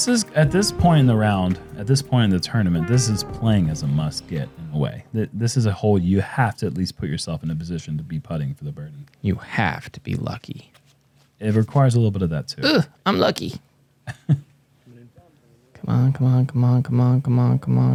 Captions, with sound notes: -At this point in the round, at this point in the tournament, this is playing as a must-get way. This is a hole you have to at least put yourself in a position to be putting for the birdie. -You have to be lucky. -It requires a little bit of that too. -Oh, unlucky. -[chuckles] -Come on, come on, come on.